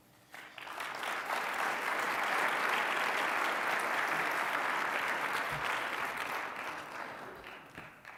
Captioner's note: applause